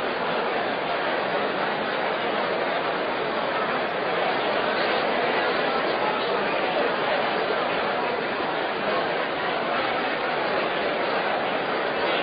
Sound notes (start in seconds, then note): 4.4 random conversation